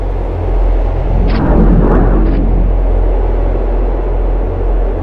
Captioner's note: portal whirring